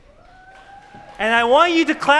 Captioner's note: applause